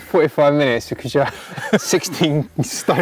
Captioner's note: both laughing